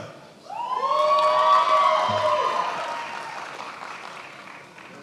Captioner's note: attendees applauding